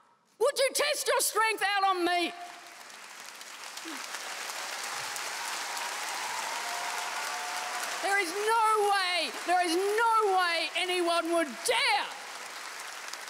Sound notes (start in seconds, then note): 2.4 audience applauds